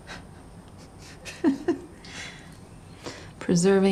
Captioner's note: chuckles